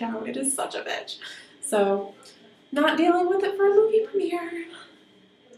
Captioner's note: sing-song voice